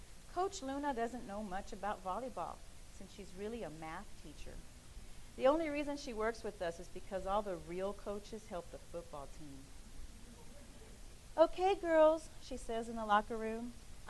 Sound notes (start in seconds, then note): none